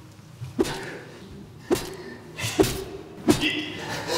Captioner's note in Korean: 쇠 파이프로 때리는 소리